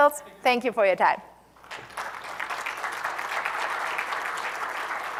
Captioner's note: applause